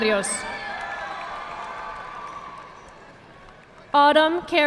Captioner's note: audience clapping